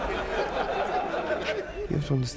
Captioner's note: all laughing